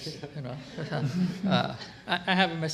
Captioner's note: laughter